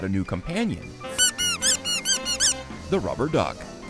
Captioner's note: toy duck squeaking